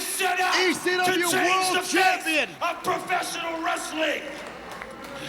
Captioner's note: crowd cheering